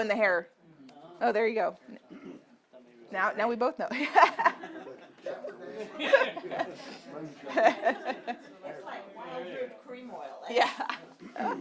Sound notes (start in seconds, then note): 4.0 laughs; 5.7 audience murmuring; 10.6 laughs